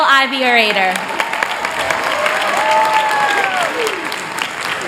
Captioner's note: applause